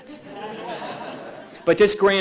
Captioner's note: audience laughing